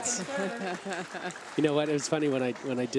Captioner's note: laughs